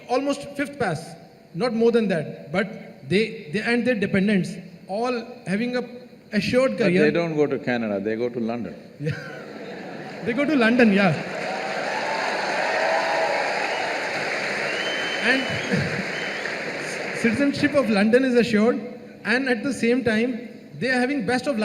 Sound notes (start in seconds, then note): 10.6 cheers; 11.7 laughs; 14.9 cheers/Applause